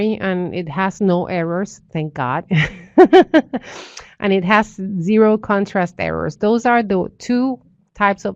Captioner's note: laughter